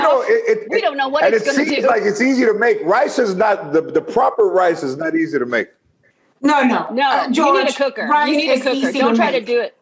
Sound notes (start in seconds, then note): 2.1 laughter